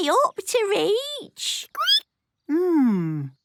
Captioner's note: squeaking